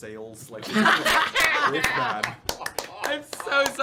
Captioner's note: laughter